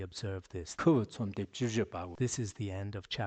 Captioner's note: giving oral transmission in Tibetan